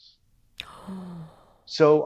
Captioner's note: gasps